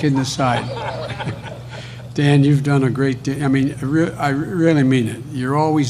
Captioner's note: laughter